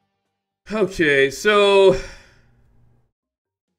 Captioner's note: sigh